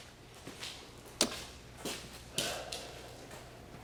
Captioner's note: footsteps